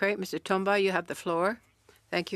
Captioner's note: speaking French